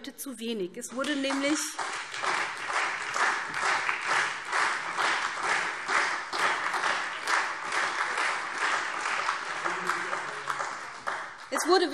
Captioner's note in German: Beifall SPD und Freie Demokraten